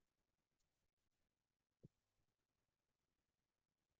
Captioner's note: none